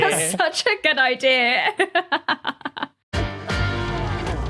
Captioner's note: laughs